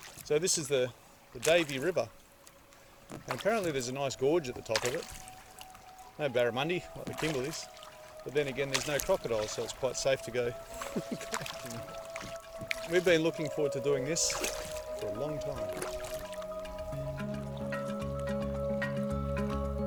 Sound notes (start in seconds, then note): 10.6 chuckles; 16.2 relaxing music